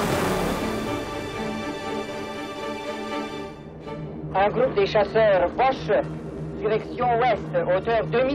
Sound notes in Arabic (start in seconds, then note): 4.3 الصوت المنطوق بالروسية